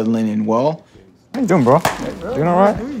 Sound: hands clap

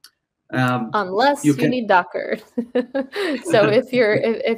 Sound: chuckles

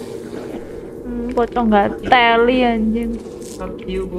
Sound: cursing

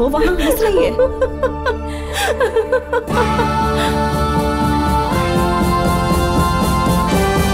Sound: laughing

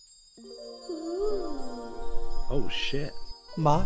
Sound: sparkle sounds; ooh!

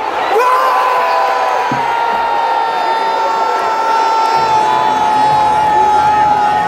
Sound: clap

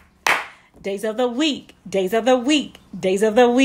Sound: clap, clap

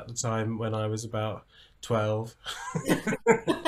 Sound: laughter

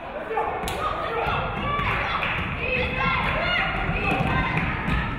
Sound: audience cheering

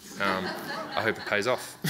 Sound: audience laughs

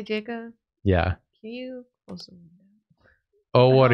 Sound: quietly

